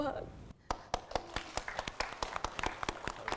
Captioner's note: applause